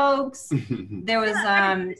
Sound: laughing

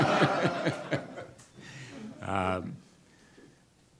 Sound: audience laughter

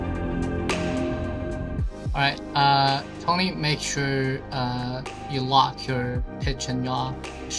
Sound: on the radio

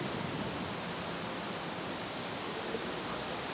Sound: rustling of leaves

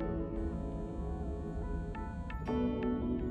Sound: cell phone vibrating

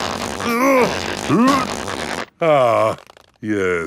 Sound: grunting

